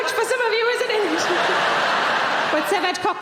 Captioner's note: audience laughing